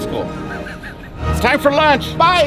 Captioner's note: chuckles